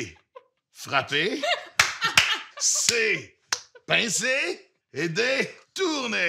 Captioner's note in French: rires